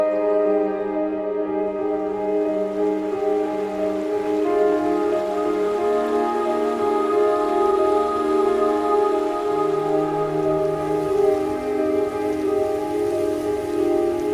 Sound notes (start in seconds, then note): 3.5 flowing water; 10.2 light music